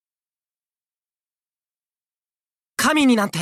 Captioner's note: silence